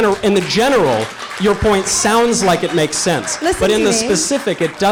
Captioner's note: audience applause